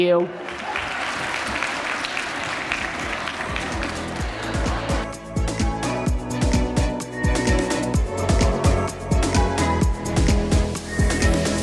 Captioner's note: applause